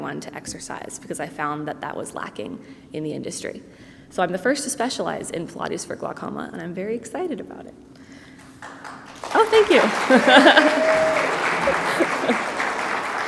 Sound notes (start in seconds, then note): 8.4 people clapping